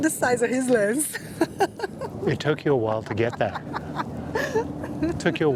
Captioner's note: laughs